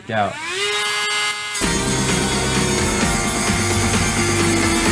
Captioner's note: saw buzzing